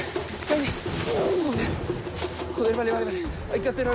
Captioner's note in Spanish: Quejidos